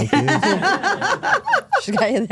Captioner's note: hosts laughing